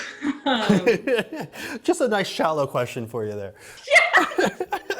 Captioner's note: chuckles